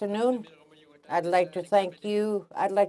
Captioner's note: speaking alternate language